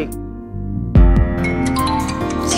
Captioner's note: Phone ringing